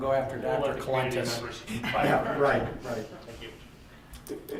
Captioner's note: laughter